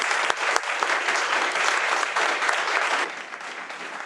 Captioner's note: audience applauds